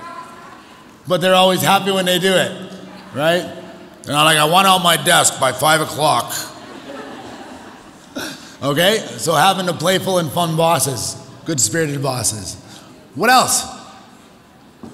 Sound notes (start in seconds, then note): 6.3 audience chuckles